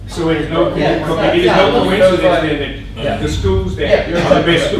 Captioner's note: voiceover